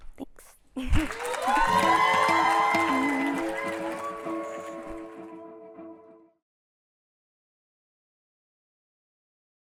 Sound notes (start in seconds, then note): 0.9 applause and upbeat music playing